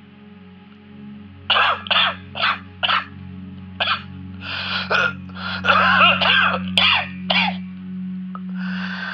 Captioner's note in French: Importante quinte de toux